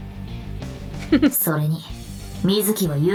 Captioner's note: chuckles